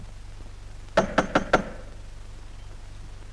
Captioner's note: knock at the door